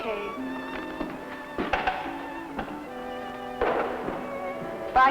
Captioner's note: footsteps descending